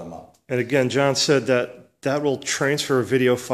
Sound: voiceover

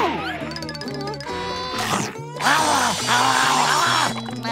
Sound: chomping

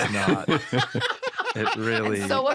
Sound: laughter

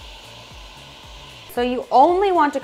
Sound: food sizzling

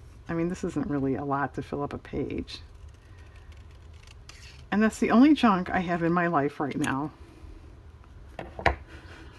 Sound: laughs

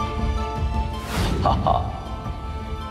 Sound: grunts

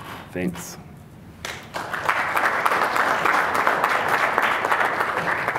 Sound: applause

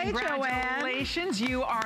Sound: applause

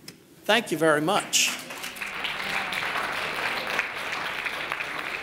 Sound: audience applauding

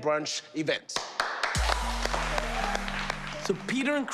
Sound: cheers and applause

